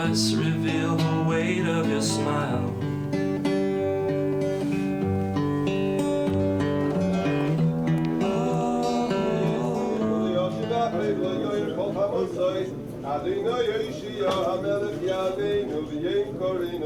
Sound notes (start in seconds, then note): 10.4 man speaking in foreign language